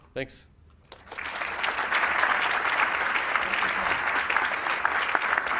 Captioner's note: applause